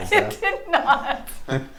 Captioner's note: laughs